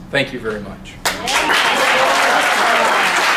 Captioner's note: applause